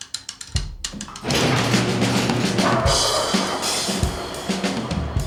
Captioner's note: garage door rattling